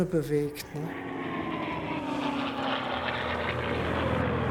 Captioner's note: planes whir